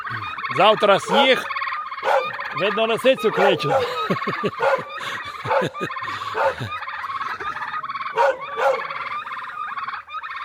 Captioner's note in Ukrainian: сміх